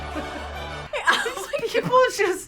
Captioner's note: laughs